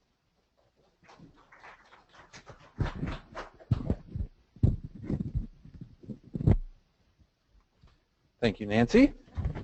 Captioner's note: applause